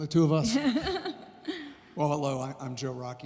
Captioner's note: laughs